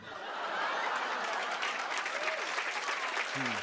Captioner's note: cheers and applause